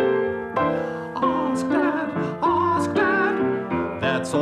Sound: falsetto

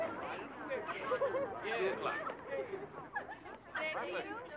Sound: girls giggling

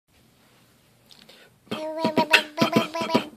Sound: beatboxing

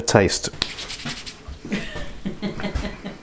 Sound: giggling

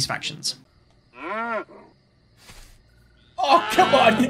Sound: cow mooing

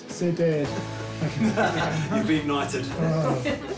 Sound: laughter

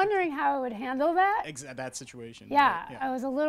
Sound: voiceover

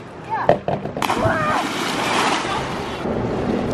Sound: splashes

